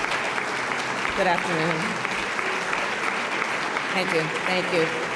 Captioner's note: applause